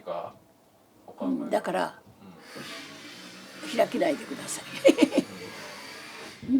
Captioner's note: laughs